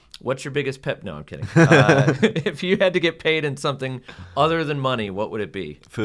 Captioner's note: laugh